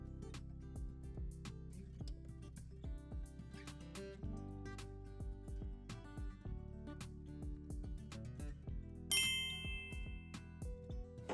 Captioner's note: transition ding